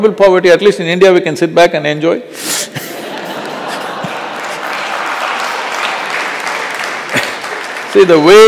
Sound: laughter/Applause

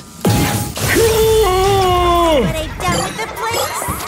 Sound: groans

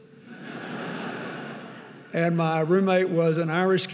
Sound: audience laughing

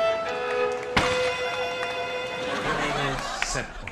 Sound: melancholic music; gunshot; speaking foreign language

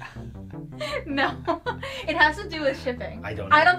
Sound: laughs

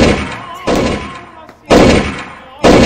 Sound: bang!

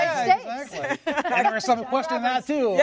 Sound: laughter

